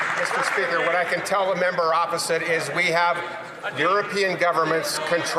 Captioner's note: some Applause